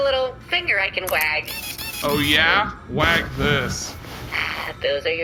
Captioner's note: sound of tiny mechanical finger wagging; suggestive rustling